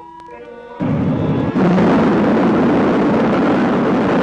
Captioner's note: rocket rumbling